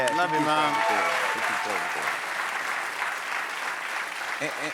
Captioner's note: cheers and applause